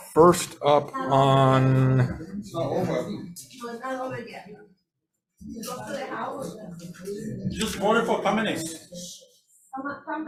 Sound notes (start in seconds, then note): 0.9 crowd chattering